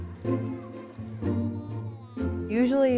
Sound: little girl humming

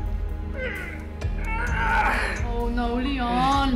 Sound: man groans

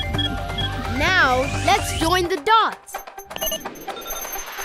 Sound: beeping

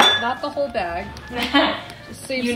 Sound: laughing

